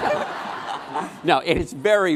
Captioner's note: laughing